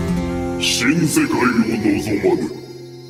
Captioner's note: Japonês - mantido no original